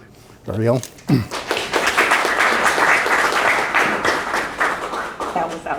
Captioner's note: audience applauding